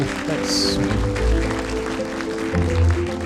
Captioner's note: applause; rhythmic music